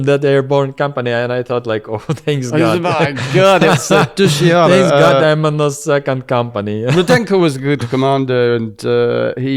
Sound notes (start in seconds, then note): 2.3 laughs; 6.9 laughs